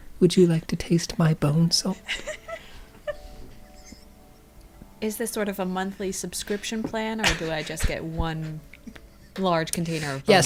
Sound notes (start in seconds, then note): 3.6 laughter